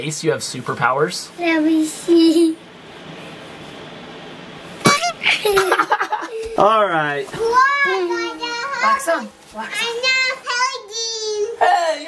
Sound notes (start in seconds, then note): 4.8 honk sound; 4.8 laugh